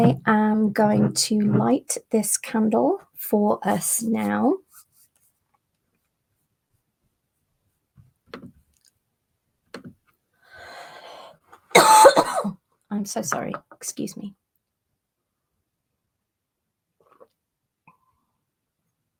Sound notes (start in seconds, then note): 11.7 cough